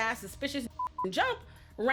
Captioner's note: beep